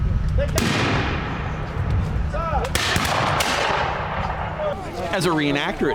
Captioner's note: random gunfire